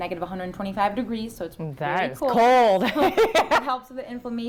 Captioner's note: laughs